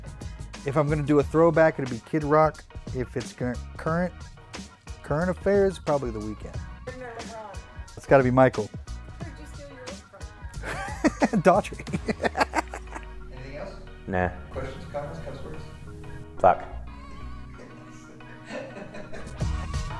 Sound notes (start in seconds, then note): 10.6 laughs; 18.1 laughs